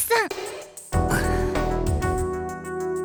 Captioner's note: sigh